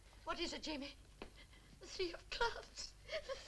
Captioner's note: sobs